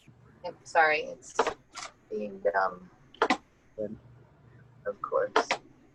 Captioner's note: clicks